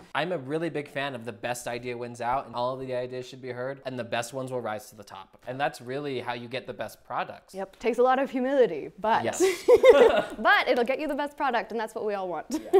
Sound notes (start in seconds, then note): 9.5 laughs; 12.2 chuckles